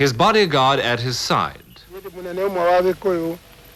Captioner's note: speaking Kikuyu